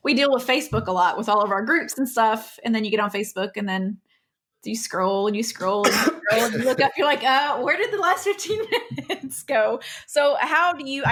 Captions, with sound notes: we deal with Facebook a lot with all of our groups and stuff and then you get on Facebook and then you scroll and you scroll (coughs) and you look up and you're like; aah where did the last 15 minutes go (laughs). So how do you...